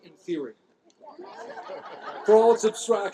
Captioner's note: laughter